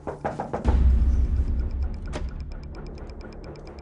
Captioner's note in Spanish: Toques en la puerta